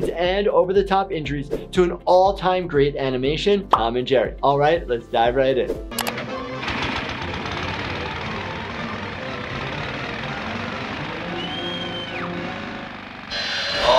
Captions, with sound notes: and over the top injuries to an all-time great animation, Tom and Jerry. All right, let's dive right in. (clicking noise) (motor running)